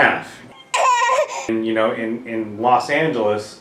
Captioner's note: baby crying